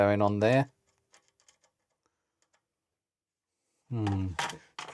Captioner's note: silence